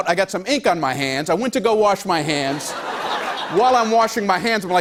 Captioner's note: laughter